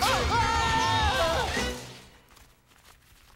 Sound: loud crash

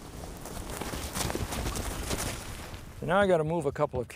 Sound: sheep running

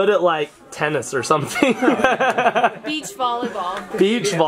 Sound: laughs

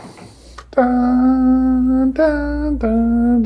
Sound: humming

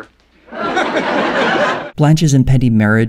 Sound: audience laughter

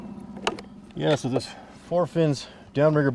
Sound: boat engine idling

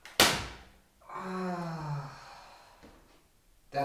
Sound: groan

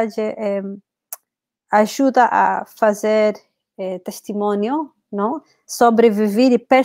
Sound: speaks portuguese

